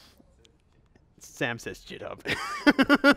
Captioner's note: laughs